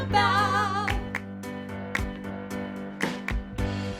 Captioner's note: clapping